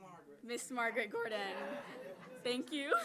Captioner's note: audience laughing